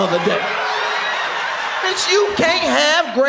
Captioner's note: audience laughs